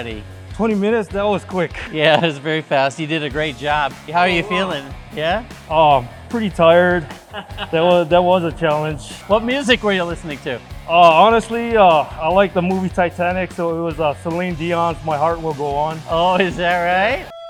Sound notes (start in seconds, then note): 6.4 laughs